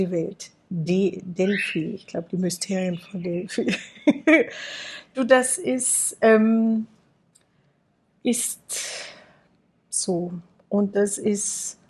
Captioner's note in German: gelächter